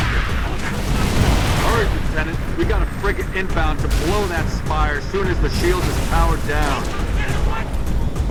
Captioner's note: radio